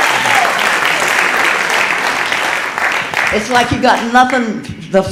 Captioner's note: audience applauding